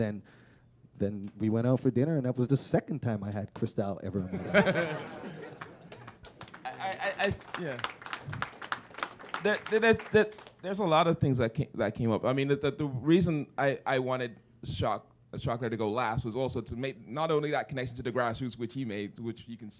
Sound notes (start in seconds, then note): 5.6 chuckle; 7.3 applause